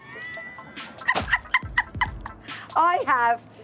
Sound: laughing

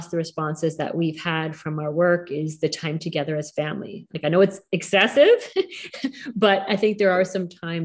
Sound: laughing

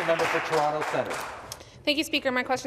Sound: some Applause

